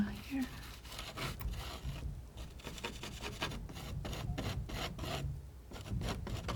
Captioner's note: scratching